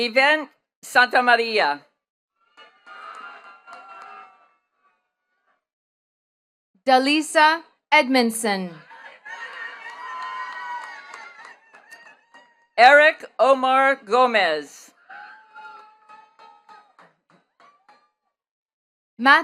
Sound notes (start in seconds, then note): 2.5 attendees cheering and clapping; 8.8 attendees cheering and clapping; 14.9 attendees clapping